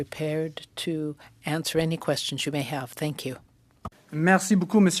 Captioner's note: speaking French